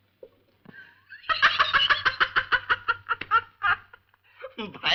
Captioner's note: laughing